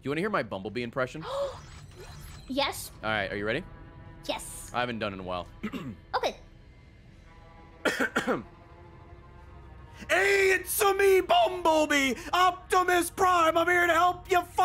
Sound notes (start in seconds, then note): 5.6 clears throat; 7.6 in an Italian accent